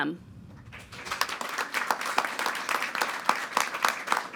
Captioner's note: all applauding